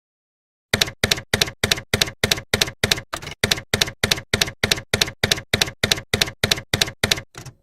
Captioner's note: typewriter keys clacking